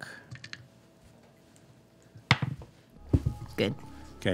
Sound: dice rolling

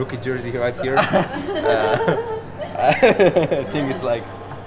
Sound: everyone laughing

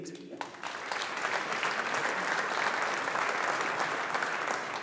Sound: audience applauding

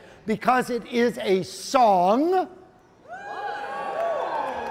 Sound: audience cheering

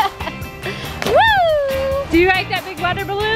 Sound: laughing; water splashing

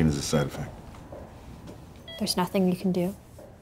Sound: monitor beeping

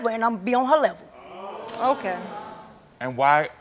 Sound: audience oohing

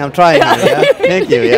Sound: chuckles

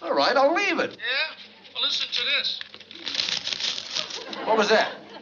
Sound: on phone

